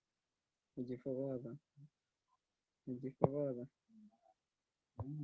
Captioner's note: in foreign language